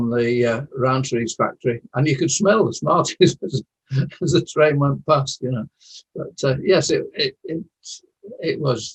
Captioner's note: chuckles